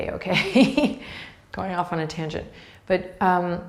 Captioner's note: laughs